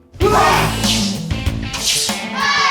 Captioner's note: martial arts noises